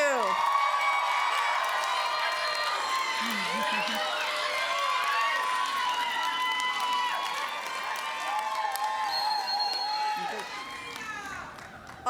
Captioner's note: applause